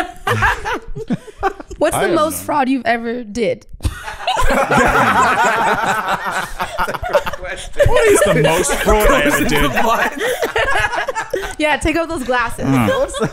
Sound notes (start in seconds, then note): 3.8 all laughing